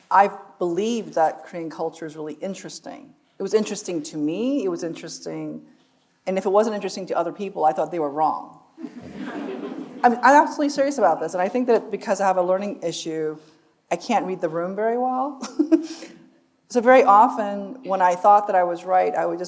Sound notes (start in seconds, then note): 8.8 audience laughs; 15.4 chuckles